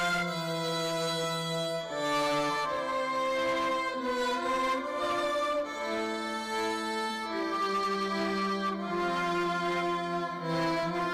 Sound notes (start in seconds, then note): none